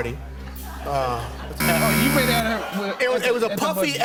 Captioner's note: buzzer